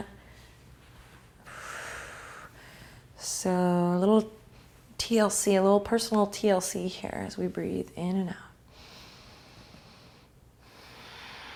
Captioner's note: breathing